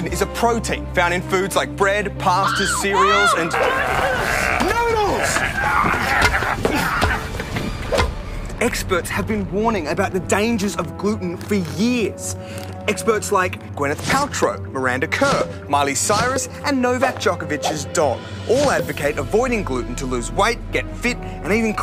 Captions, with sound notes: Gluten is a protein found in foods like bread, pasta, cereals and... Help! (Growls) ..noodles! (Moans) Experts have been warning about the dangers of gluten for years. Experts like Gwyneth Paltrow, Miranda Kerr Miley Cyrus and Novak Djokovic's dog. All advocate avoiding gluten to lose weight, get fit